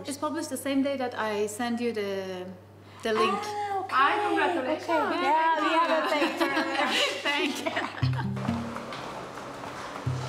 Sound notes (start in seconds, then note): 5.7 riure